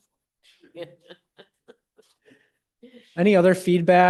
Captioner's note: chuckling